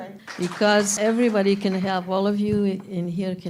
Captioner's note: applause